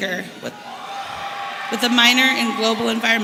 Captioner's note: audience cheering